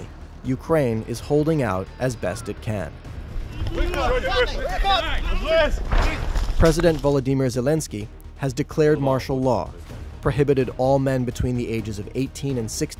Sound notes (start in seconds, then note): 3.3 people shouting in foreign language